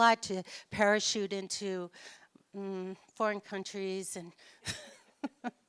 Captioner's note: laughs